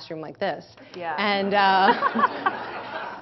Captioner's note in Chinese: laughter; 笑聲